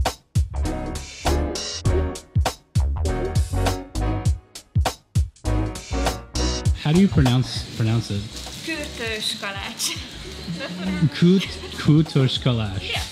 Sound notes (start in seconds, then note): 9.8 laugh